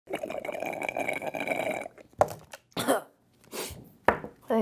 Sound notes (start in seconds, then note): 0.1 slurping noise; 2.7 coughs